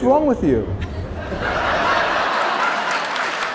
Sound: laughter; applause

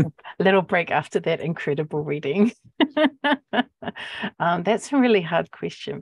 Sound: laughs

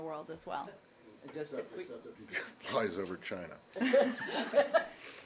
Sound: laughter

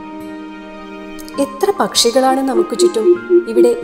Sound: greater coucal call

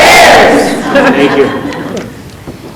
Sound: group laughing

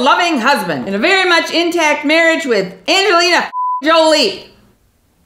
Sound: beep

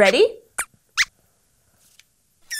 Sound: squeaks squeaks

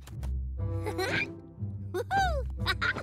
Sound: chuckles excitedly

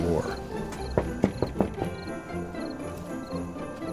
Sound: door knocks; bright holiday music

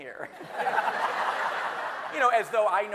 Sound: everyone laughing

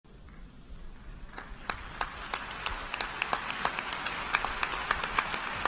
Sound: audience applauds

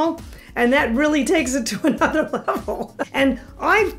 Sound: laughs

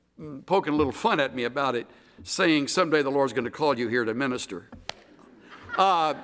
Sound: laughter

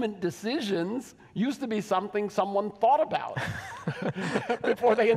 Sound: laughs

